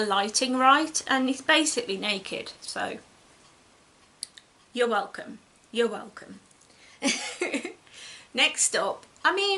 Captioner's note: giggles